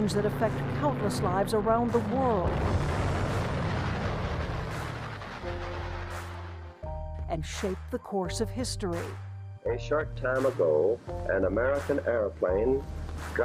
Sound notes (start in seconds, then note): 2.9 plane engine roars